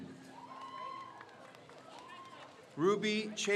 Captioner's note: crowd cheers